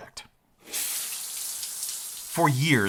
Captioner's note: shower water running